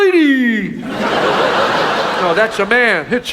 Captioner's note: audience laughs